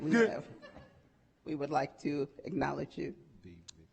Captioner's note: audience chuckling